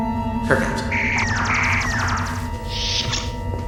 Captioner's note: phaser fire